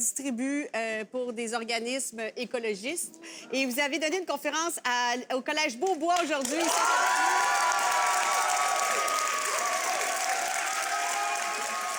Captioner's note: speaks in french and audience applauds